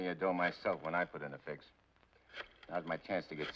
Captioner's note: rotary phone dials